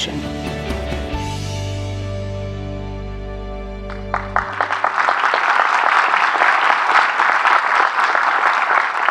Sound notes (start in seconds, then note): 3.8 audience clapping